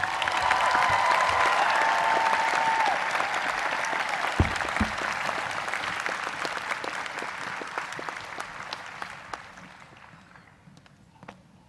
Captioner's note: applause